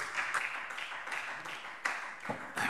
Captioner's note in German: Beifall SPD